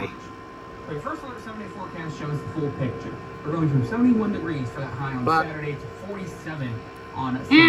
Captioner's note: TV still plays in background